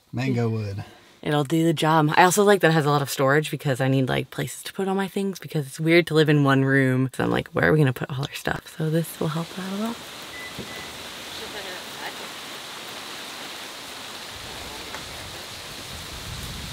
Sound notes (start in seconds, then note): 10.2 car beeping; 10.7 leaves rustling